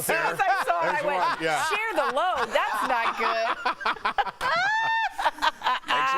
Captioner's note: laughter